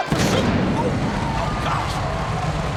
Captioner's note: pyro bangs